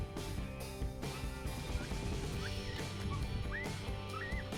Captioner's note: coyote call